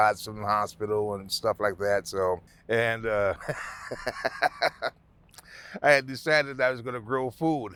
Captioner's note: laughing